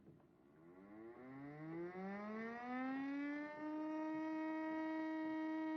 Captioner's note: siren Droning